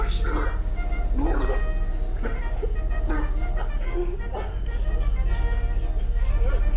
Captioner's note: cheerful 1920's music; victim sobbing